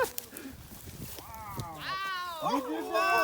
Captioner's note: laughs